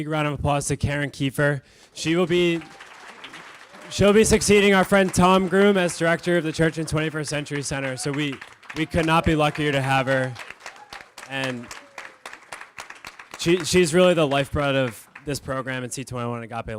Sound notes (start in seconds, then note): 2.2 applause